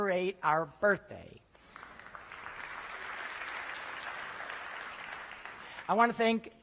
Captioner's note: applause